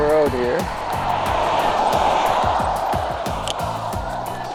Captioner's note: traffic passes